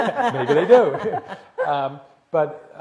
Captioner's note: laughter